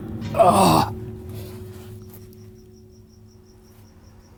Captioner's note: grunts